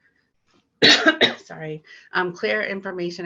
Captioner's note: coughs